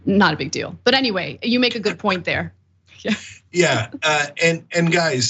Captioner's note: laugh